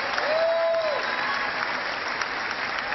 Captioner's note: cheering